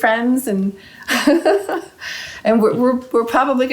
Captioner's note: laughing